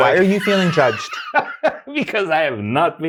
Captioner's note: guy laughing